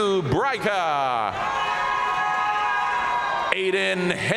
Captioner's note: audience cheering and applauding